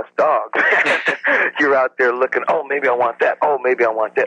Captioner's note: chuckles